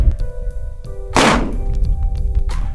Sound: gun fires

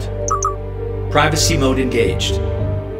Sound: beeps

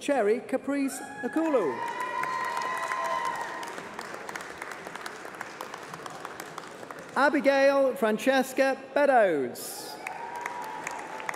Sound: applause

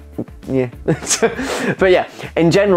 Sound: laughing

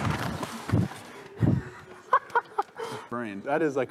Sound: laughs

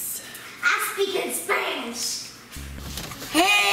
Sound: mumbles

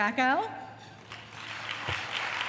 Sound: applause

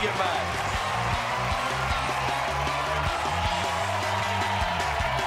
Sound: cheers and applause; lively music

